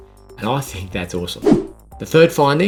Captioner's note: scene change whooshing